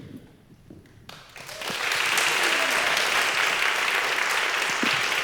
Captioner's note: congregation clapping